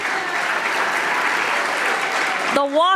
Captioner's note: audience applauding